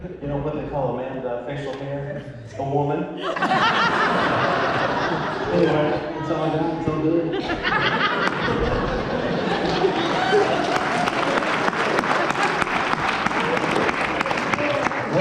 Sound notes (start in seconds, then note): 9.4 applause